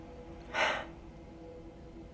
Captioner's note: tense music; Claire sighs